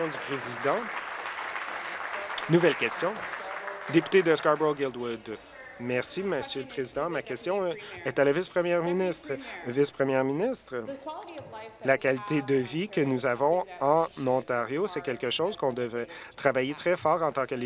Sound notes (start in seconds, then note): 3.6 applause